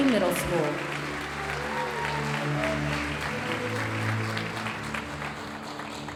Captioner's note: audience cheering and applauding